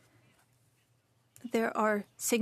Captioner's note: speaking French